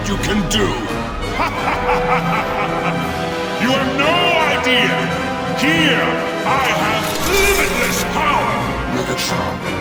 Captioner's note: laugh